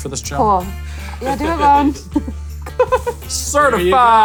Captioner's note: laughs